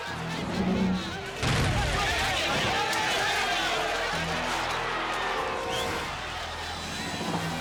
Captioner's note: crowd shouting frantically; truss booming on impact